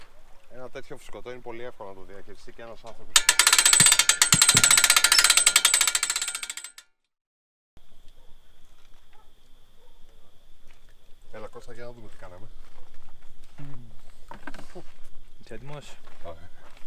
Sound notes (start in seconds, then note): 3.2 winch boat sounds